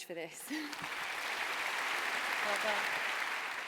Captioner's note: applause